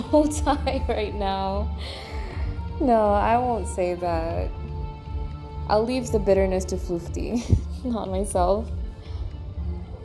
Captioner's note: laughs